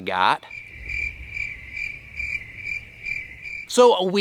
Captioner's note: crickets Chirping